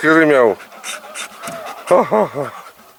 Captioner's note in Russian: скулит